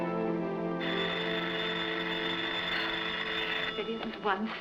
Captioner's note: telephone ringing